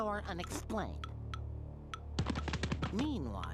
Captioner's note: timer ticking